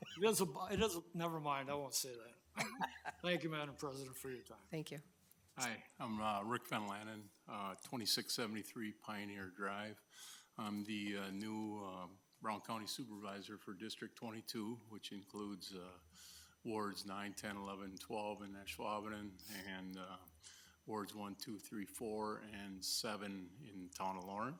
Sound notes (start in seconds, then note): 2.5 trustee laughing